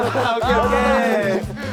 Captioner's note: ahhhhh!!!